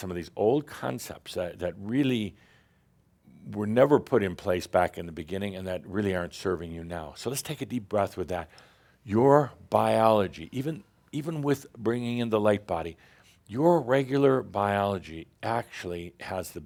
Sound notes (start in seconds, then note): none